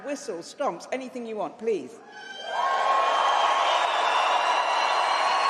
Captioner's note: loud applause